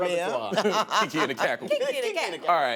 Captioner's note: laughter